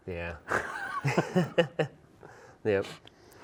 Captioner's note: both laugh